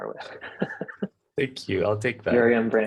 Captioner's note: chuckles